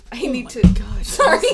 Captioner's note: struggling